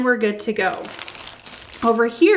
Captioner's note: plastic crackles